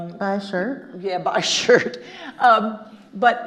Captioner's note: laughing